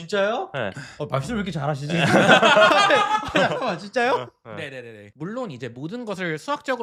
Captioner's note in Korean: 웃음